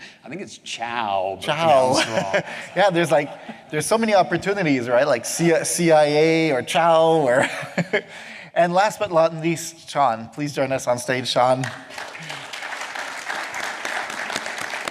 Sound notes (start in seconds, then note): 7.2 laughs; 11.5 applause